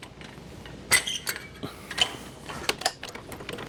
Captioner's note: metal Clanking